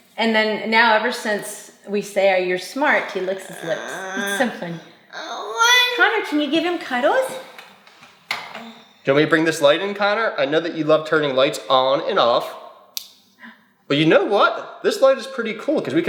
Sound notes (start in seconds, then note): 3.3 vocalizing; 12.8 light switch clicks